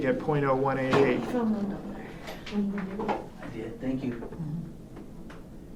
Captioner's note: chattering offscreen